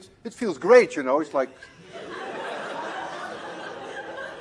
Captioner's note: laughter